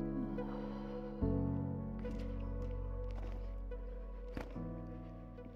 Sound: mam sighs in frustration

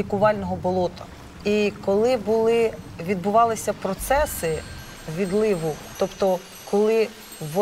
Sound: chimes ringing

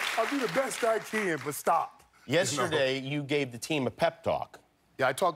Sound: cheers and applause

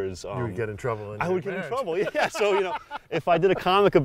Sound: laughs

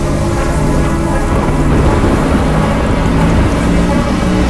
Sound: whirring; thunder crashing

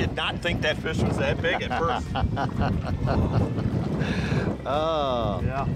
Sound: laughing

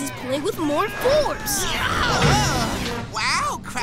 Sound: yelling

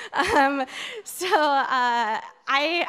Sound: audience laughing

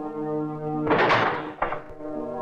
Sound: door Open

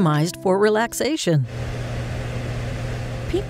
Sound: pink noise

